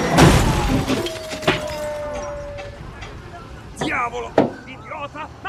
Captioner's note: crowd groaning; ice cream truck music playing; in Italian